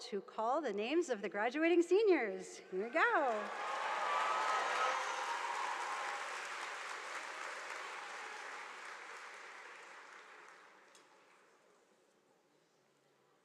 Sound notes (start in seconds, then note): 2.8 audience cheering; 2.9 audience applauding